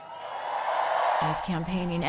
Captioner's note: cheering